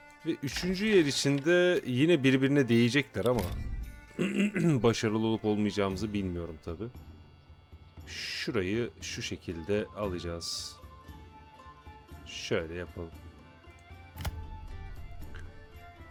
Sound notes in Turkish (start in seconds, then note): 4.0 öksürme; 4.1 boğazını temizler